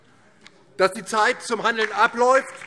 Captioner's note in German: Beifall DIE LINKE